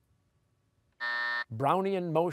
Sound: buzzer

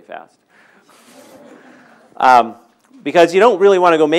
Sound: audience laughing

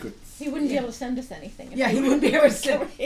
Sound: voiceover

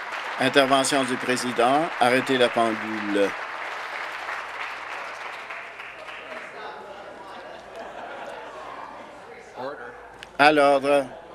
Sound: applause

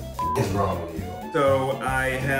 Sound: beep

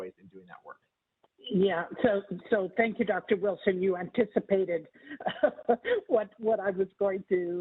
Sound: laugh

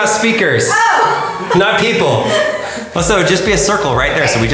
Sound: laughs

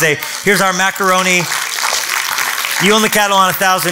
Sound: clapping

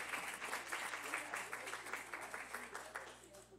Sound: cheers and applause

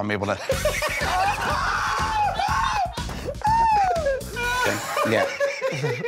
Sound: laughter

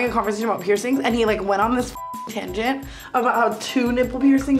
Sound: beep

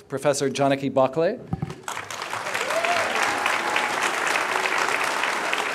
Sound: applause

